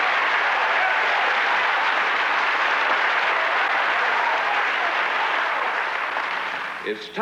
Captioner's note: applause